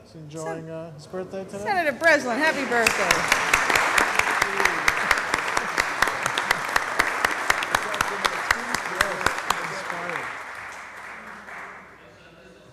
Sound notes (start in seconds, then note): 2.4 applause